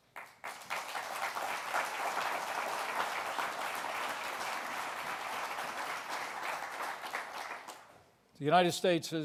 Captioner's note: applause